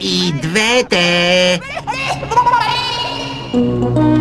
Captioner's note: laughing maniacally